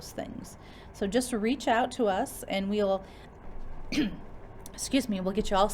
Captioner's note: cough